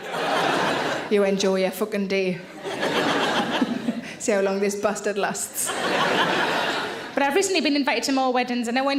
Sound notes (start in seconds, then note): 2.5 audience laughs; 2.6 laughs; 5.5 audience laughs